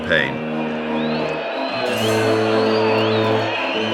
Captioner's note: people cheering